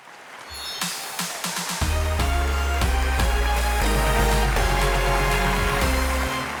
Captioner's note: audience applauds; upbeat music